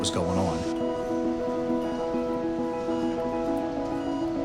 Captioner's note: monitors beeping